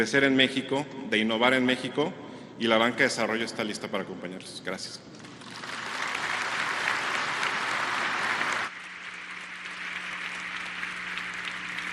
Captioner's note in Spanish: aplausos